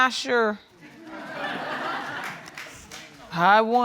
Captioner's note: audience laughing